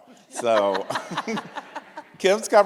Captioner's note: audience laughs